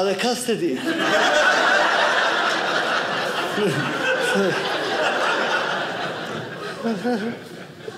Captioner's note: audience laughing